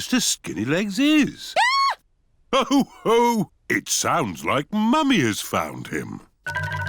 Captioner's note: mummy pig screams